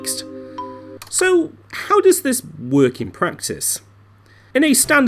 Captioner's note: music Cuts, Keyboard Click